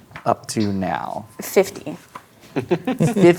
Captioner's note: chuckles